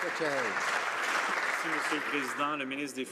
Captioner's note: some Applause